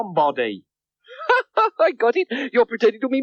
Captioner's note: laughing